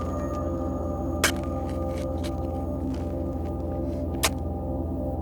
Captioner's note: shovel scraping